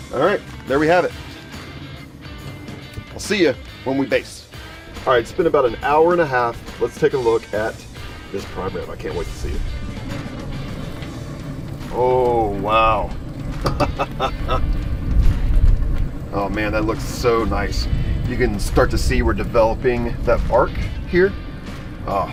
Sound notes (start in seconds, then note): 10.2 upbeat music; 13.8 laughing